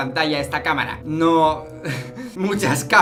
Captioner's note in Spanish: risas